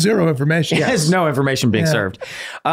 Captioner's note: Glenn laughs